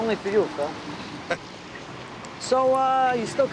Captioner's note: chuckles